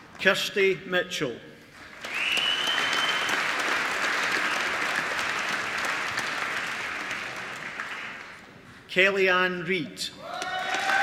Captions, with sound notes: Kirsty Mitchell (APPLAUSE) Kelly Ann Reid